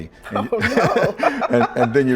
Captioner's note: laughter